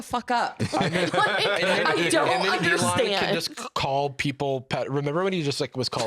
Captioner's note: laughing